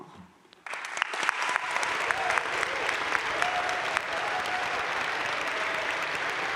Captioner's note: crowd cheering and applauding